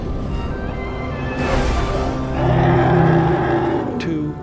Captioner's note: mastodon roars